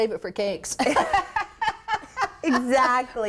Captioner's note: laugh